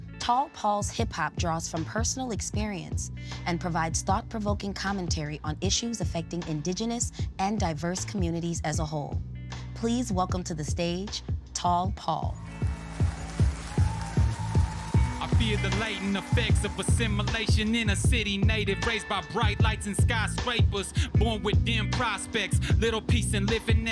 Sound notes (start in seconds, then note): 12.7 audience cheers